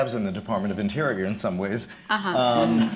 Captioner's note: laughter